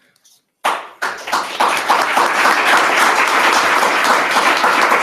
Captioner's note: applause